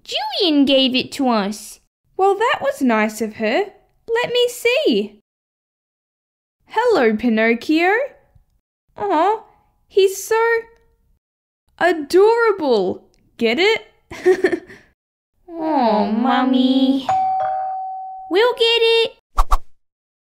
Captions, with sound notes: Jillian gave it to us Well that was nice of her Let me see Hello Pinocchio! Oh... He's so... ...adorable! Get it? He, he, he Oh Mummy... (Doorbell) We'll get it!